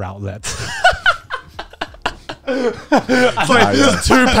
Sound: all laughing

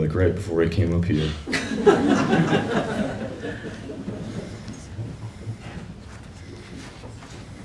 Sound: laughter

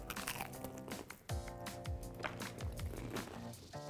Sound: crunching

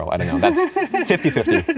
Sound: giggles

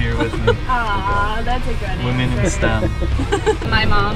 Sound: laughing

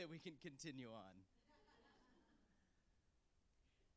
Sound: laughter

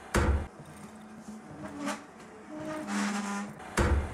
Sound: banging of a hammer; quiet screeching of moving furniture; banging of a hammer

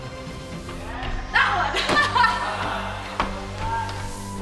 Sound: laughs

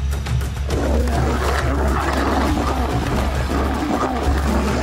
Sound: lionesses roaring

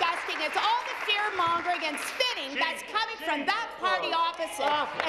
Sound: applause

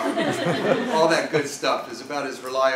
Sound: laugh

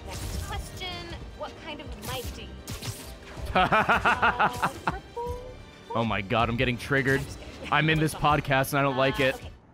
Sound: laughs

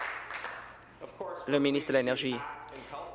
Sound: applause

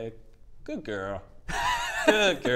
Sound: worrying laugh

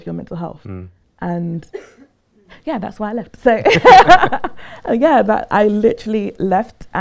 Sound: laughter

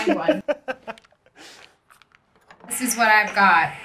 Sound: laughs

